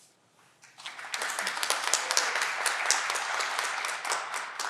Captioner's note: audience clapping